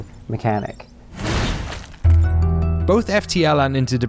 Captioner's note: video game noises